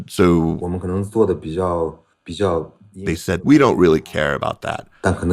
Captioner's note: speaking Mandarin Chinese